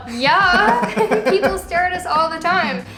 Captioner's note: laughter